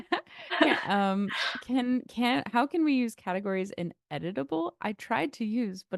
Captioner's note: laughter